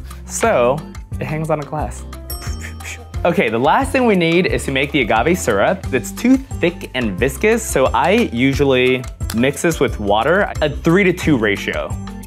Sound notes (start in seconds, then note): 2.2 bell dings